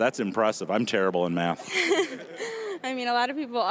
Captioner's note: laughing